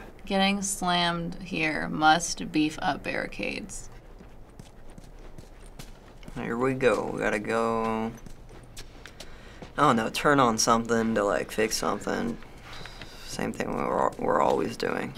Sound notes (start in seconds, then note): 3.9 soft footsteps